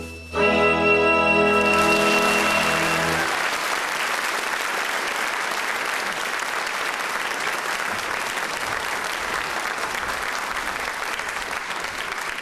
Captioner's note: applause